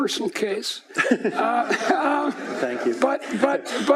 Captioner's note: laughing